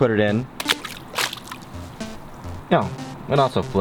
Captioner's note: water splashing